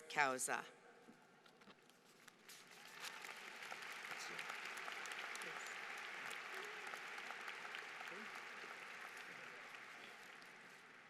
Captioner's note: applause